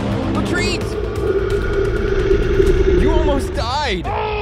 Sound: roars

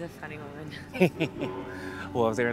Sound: Michael giggles

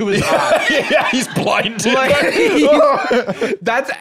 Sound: laughing

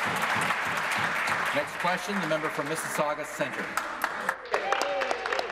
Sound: applause

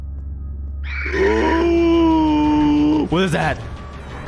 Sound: inhuman guttural cry of fear

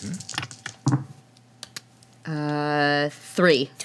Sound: dice rattling

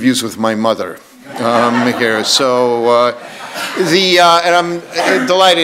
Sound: audience laughs

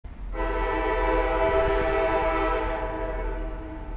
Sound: distant train horn echoing

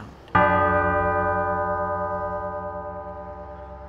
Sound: bell ringing

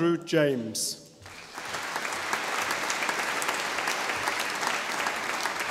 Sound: audience applauding

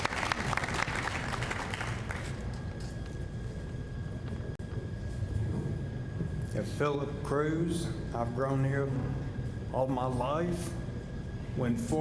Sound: applause

